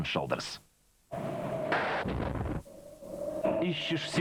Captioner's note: wind noise